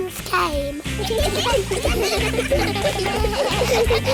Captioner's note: giggling